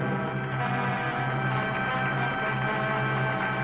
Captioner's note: audience applauding